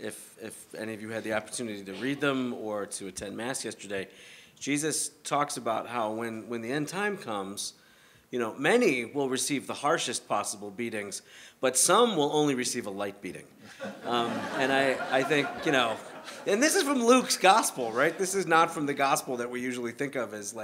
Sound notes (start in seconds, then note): 13.7 laughter